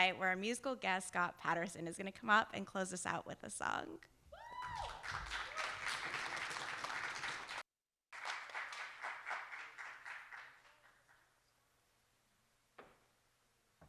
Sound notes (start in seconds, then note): 4.6 audience applauding